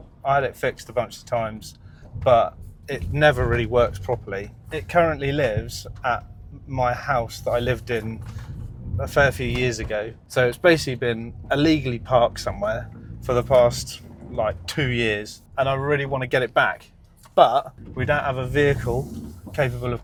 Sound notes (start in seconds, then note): none